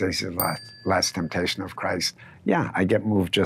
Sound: bell dinging

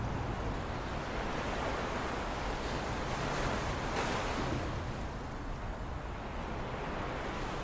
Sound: the sound of waves lapping along with the sound of the wind

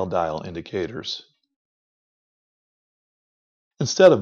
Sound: silence

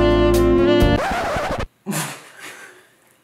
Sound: record scratching; laughing

